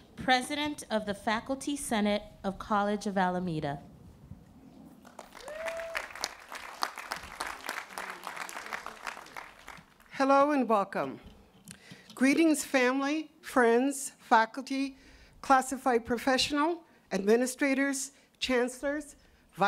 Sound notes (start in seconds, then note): 5.0 applause